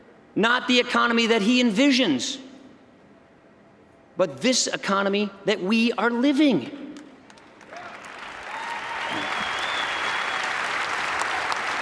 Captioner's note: applause